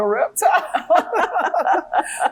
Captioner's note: laughing